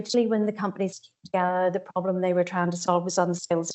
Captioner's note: audio distorts 32.49